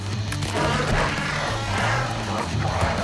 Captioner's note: wails; snarling